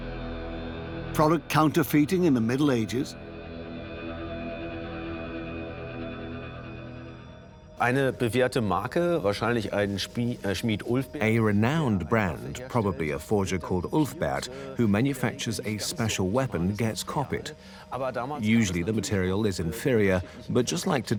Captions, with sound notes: Product counterfeiting in the ? (in German) (dubbed in English) A renowned , probably a forger called Ulfber, who makes a special weapon, get. Usually the material is inferio, but just like today,